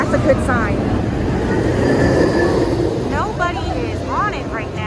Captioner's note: roller coaster sounds